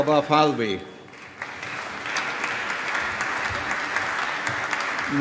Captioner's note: applause